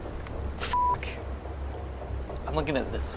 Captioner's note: beep